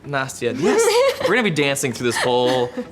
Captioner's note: Nastia laughing